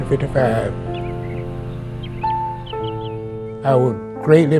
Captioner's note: birds chirping